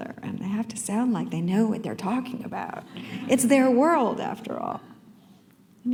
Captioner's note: laughter